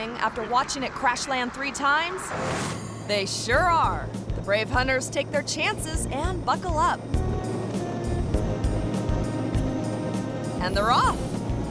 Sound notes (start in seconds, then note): 5.9 triumphant music; 7.3 plane humming